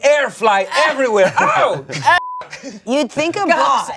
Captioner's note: beep